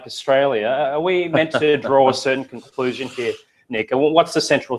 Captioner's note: laugh